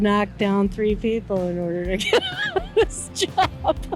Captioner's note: chuckles